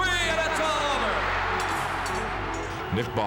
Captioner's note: crowd cheering